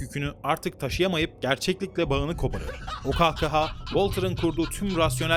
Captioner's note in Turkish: kahkaha